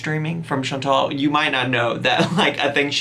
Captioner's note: laughs